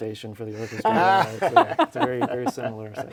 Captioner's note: laugh